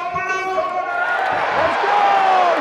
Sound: audience cheering

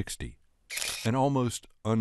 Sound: shutter clicking

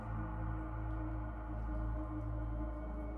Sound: none

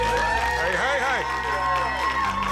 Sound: cheering

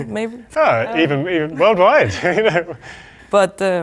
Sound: chuckles

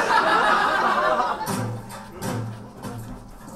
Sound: audience laughs

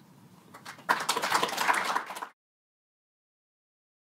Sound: applause

